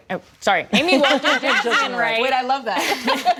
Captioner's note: laughter